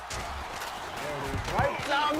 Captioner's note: crowd cheers